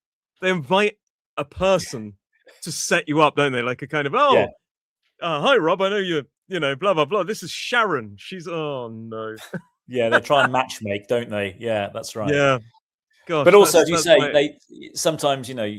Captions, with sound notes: they invite a person to set you up, don't they? Like a kind of Oh, hi Rob. I know you're, you know, blah blah blah. This is Sharon. She's Oh, no. Yeah. [laughter] They try and matchmake, don't they? Yeah, that's right. Yeah. Gosh. But also as you say they sometimes you know